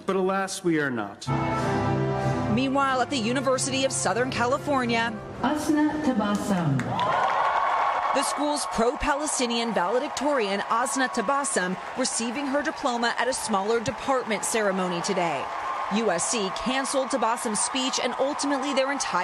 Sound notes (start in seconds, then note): 9.9 cheers